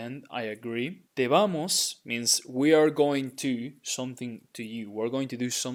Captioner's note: speaking in Spanish